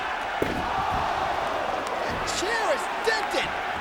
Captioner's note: chair smacks